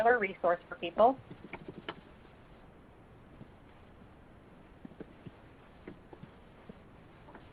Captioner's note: silence